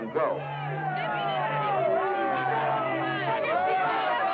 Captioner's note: indistinct shouting